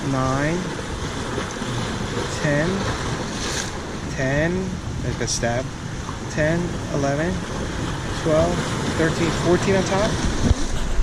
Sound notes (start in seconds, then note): none